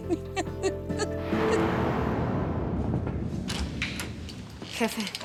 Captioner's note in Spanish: sollozos